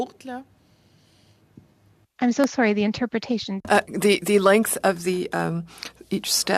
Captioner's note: speaking French